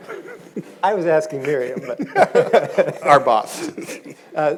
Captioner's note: audience chuckles; panelists laugh